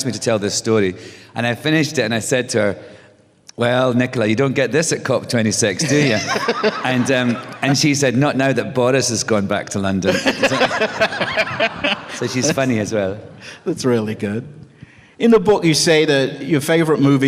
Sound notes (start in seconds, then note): 5.8 laughter; 10.0 laughter